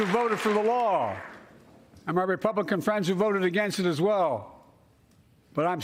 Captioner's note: cheers and applause